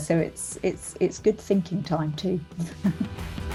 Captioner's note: laughs; upbeat music